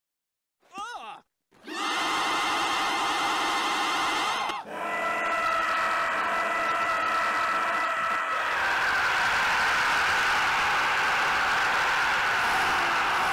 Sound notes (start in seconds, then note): 1.6 eternal screams